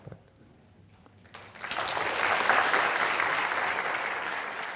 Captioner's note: audience applauding